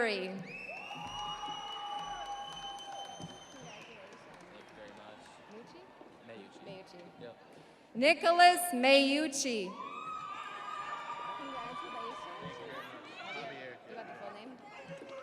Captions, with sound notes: Glorimar Berry. (audience applauding) (audience cheering) Nicholas Mayyuchi.